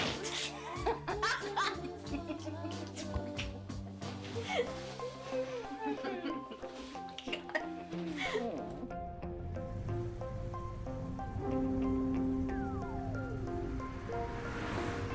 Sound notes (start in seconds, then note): 0.3 Rose laughing; 2.8 both chuckling; 7.2 bright music; 11.4 traffic humming